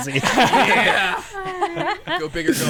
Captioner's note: players laughing